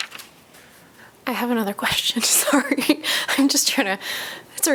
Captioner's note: laughter